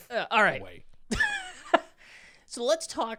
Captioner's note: laughs